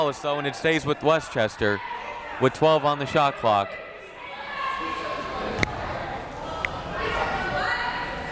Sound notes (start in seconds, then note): 2.9 crowd members shouting